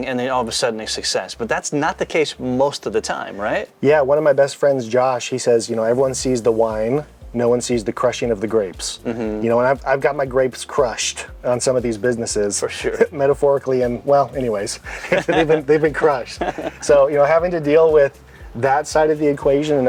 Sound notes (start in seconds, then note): 14.8 both men laugh